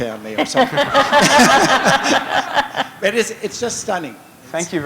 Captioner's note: laughter